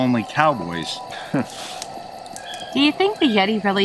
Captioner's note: chuckling